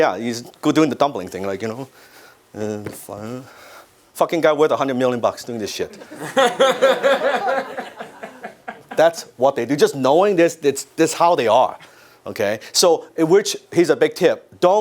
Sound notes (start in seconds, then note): 5.9 audience laugh